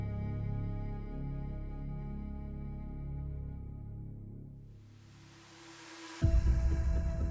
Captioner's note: static; dramatic music